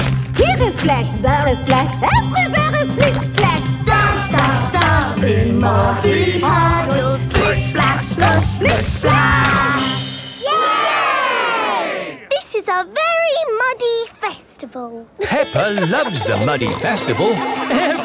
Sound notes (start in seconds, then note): 10.4 all cheering; 15.1 laughing